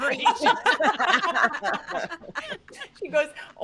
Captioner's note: all laughing